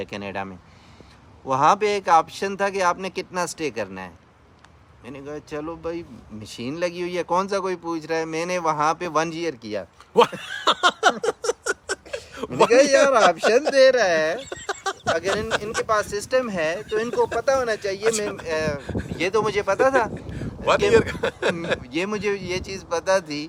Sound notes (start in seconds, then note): 10.1 laugh